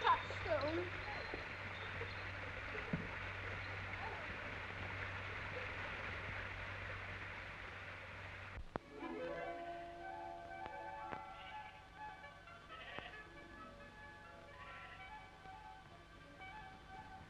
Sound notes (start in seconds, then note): 8.6 idyllic music; 9.0 sheep baaing